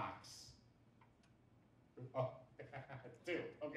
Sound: laughs

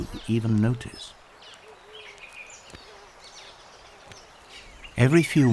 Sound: birds chirping

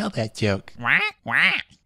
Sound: squawk

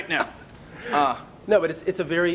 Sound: laughing

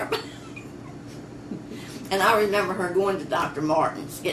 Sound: laughs

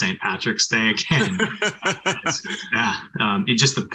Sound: laughter

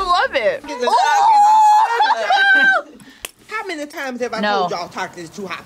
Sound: laughs

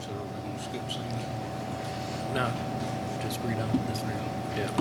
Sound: faintly speaking

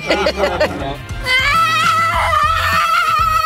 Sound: laughter; yelling

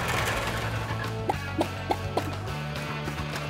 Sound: clucking

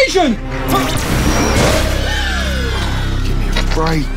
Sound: aliens cheering; laser blast and splatter

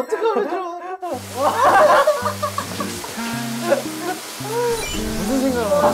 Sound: hahahaha

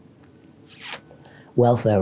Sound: loud sucking

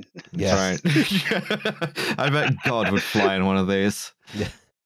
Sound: laughter

